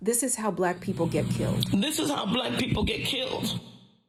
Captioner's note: soundbite of archived recording